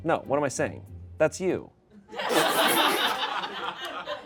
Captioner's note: laughter